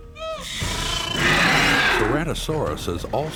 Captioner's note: roars